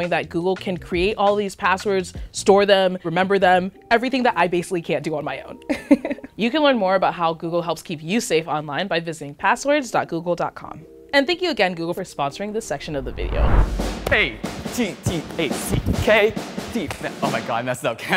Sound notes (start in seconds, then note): 5.7 giggling